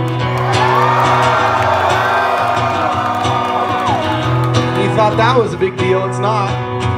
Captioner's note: crowd Cheers